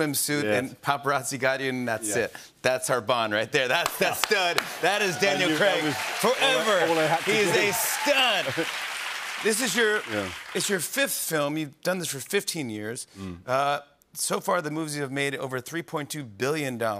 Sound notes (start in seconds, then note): 8.3 cheers and applause